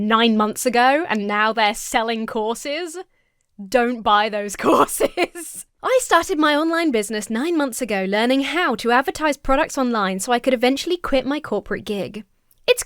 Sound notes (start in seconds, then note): 4.6 laughs